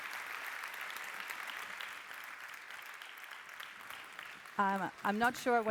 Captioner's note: applause